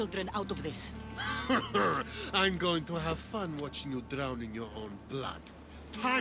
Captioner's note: laughs